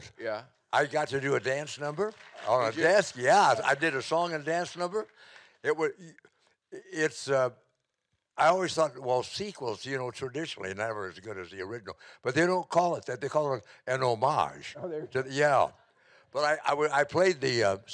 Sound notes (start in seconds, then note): 0.8 audience clapping